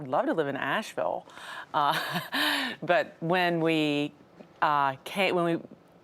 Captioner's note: chuckles